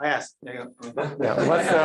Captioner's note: laughter